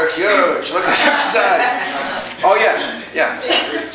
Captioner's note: audience chuckling